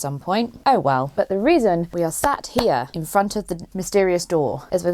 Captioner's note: claps